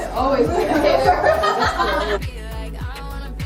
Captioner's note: laughter